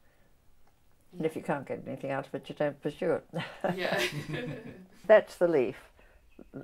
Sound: laughs

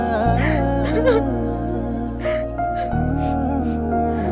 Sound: sobbing

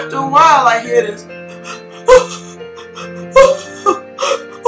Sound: whimpering noise

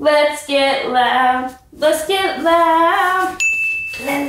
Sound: none

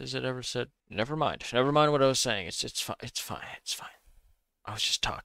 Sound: overly dramatic

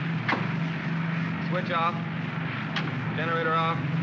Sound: switch pops; switch clicks; switches click

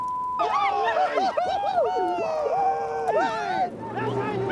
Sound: beep; cheering

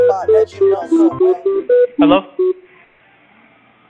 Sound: phone rings

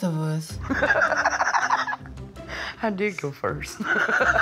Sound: laughter

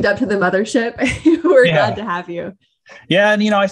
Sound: laughs

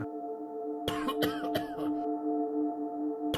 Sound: coughing sound

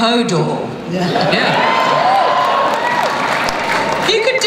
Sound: cheering

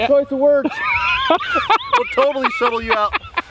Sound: cackling

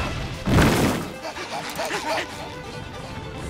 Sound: panting

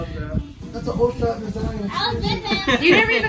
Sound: laughing

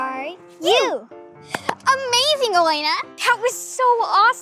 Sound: clapping

